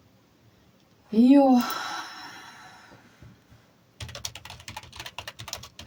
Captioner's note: sigh